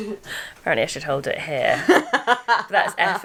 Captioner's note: laughs